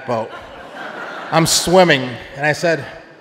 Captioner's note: audience laughing